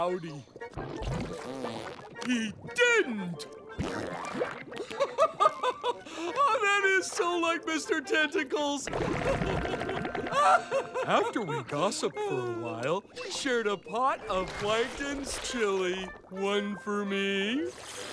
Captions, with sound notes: [flatulence] He didn't! [flatulence] [laughs] Oh, that is so like Mr. Tentacles! [laughing] After we gossiped for a while, we shared a pot of Plankton's chili. One for me...